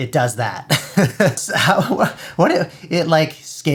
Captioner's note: laughing